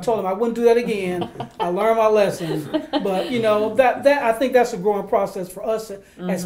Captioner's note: laughter